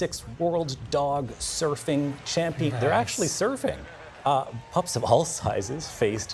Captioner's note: cheers